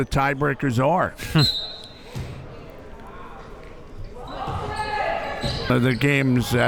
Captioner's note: chuckles; whistle blows